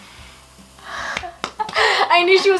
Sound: laughing

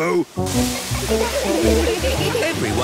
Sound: laughter

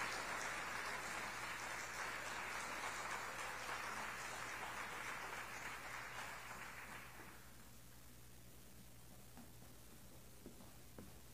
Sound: applause

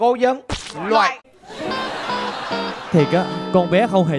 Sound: laughing

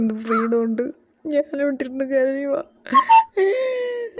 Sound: sobs

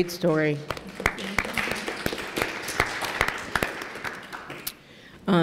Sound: applause

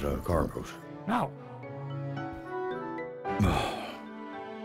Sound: exasperated sigh

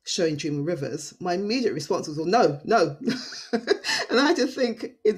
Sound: laughing

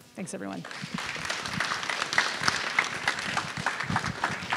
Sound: audience applauds

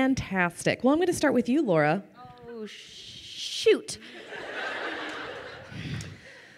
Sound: crowd laughing

